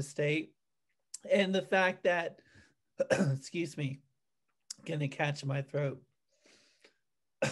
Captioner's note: clears throat